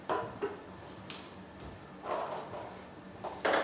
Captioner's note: balls ping pong hitting